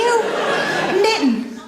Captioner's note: audience laughs